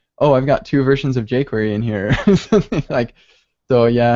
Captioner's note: laughs